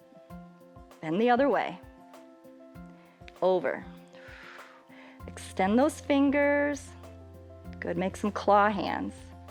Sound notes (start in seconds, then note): 4.1 exhales